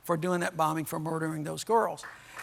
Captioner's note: applause